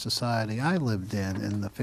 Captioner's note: speaking Italian